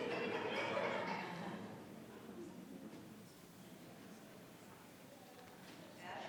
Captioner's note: attendees chattering continues